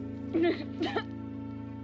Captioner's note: crying, coughing